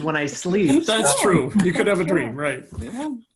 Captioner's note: laughing